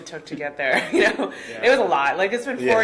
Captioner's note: laughing